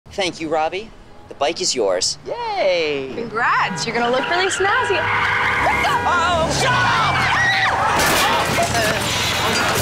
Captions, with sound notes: Thank you, Robbie. The bike is yours. - Yay. - Congrats. You're going to look really snazzy- [honking] - What the-?! - Uh-oh! Jump! [screaming]